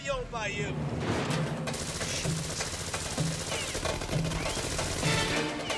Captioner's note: deep dramatic music; guns firing